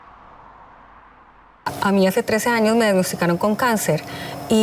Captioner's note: speaking Spanish